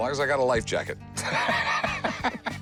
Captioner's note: laughs